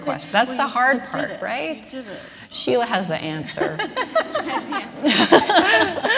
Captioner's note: laughter